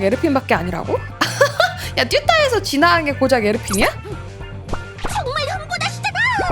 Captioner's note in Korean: 웃음